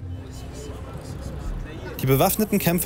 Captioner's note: quiet voices